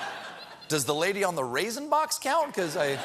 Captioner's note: laughter